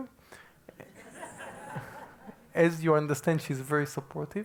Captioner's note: laugh